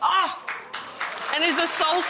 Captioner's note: applause